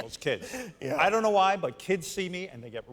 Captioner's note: laughter